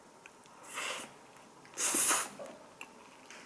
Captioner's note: slurp